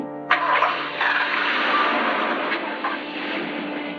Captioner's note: engines start